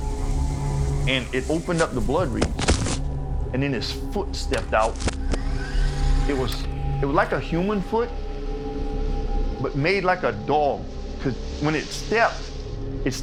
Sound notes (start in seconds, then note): 5.2 rewind whirring